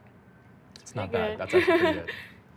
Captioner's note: laughing